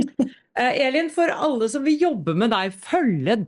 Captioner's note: laughs